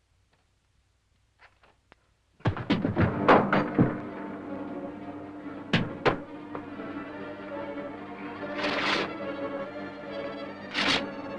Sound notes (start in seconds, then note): 2.4 punch thuds; 2.6 tense music